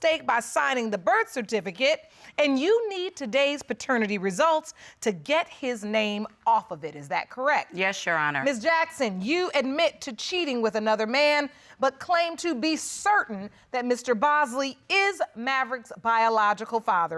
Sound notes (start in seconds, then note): none